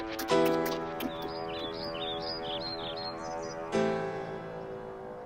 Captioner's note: birds chirping; cinematic music ends